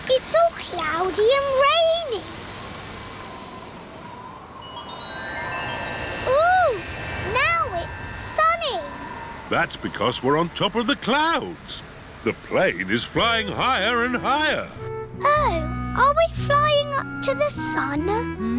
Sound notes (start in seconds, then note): none